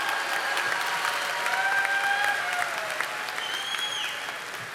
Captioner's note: audience applauding